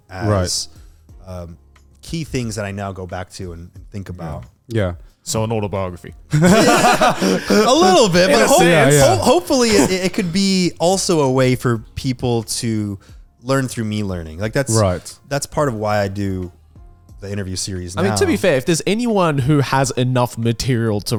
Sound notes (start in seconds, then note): 6.3 all laughing